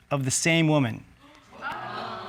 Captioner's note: audience exclaiming